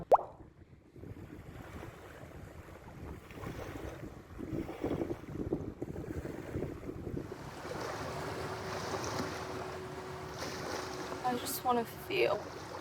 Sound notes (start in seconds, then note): 0.0 pop sound effect; 5.9 waves splash